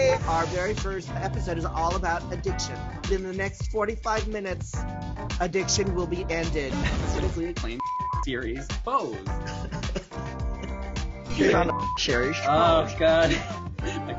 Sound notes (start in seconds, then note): 9.2 laughs